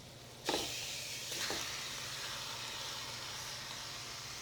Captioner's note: sizzling continues